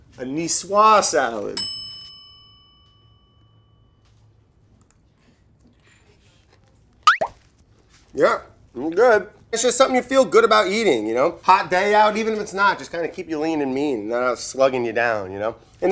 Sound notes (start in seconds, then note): 1.6 bell dinging; 7.0 clicking and popping